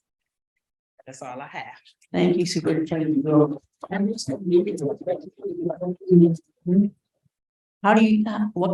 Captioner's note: general mic noises